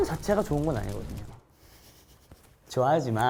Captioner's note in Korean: 웃참 실패